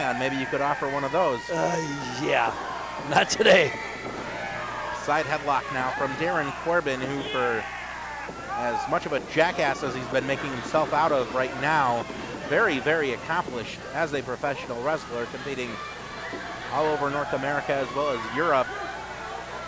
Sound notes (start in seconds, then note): 3.1 laughing